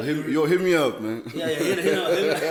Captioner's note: everybody laughs